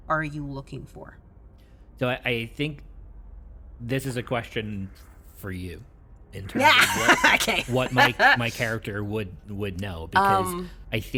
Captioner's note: chuckles